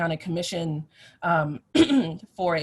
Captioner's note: clears throat